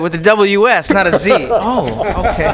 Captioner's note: laughter